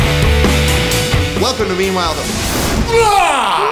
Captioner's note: rumbling